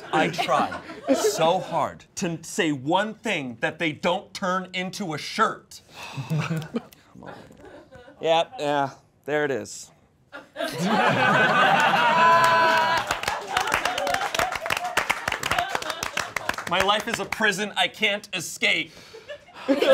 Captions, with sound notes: I try so hard to say one thing that they don't turn into a shirt. Yeah, yeah, there it is. (all laughing) (all applauding) My life is a prison I can't escape.